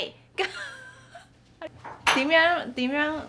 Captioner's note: laughter